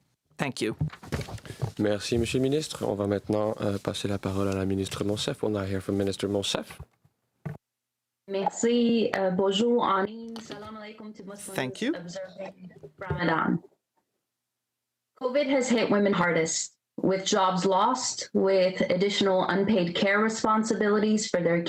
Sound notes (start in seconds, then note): 8.7 speaking french